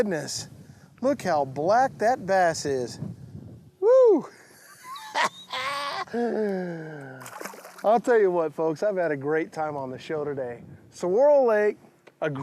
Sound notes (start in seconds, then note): 4.4 laughs